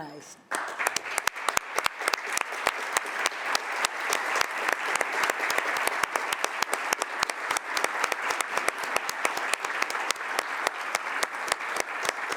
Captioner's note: applause